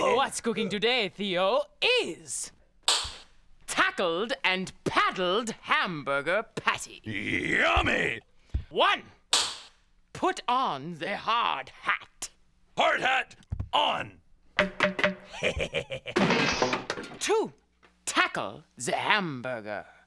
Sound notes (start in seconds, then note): 8.9 cracks pointer; 14.6 hollow knocking; 15.3 laughing